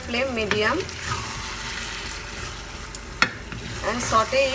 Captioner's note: chicken slightly sizzling